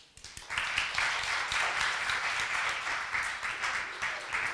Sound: crowd applauding

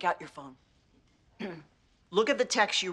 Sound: clears throat

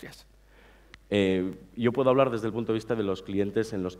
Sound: speaking spanish

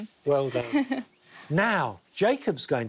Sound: laughs

